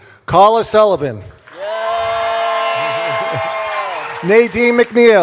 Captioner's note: cheers and applause